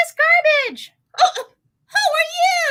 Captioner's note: gasps